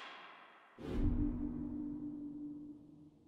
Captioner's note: clapping; ominous banging